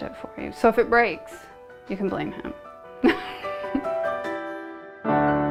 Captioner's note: chuckles